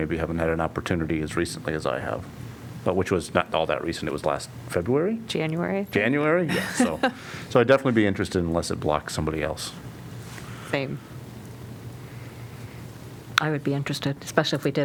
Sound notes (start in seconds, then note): 6.5 laughter